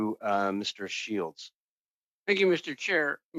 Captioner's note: speaking French